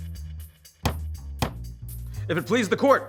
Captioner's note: upbeat jazz music; gavel thudding